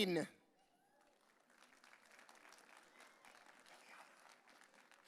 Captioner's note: audience cheering